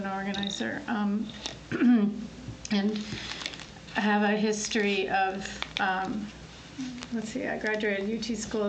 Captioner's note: clears throat